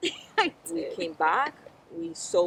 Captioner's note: laughs